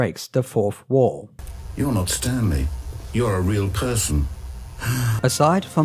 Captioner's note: sigh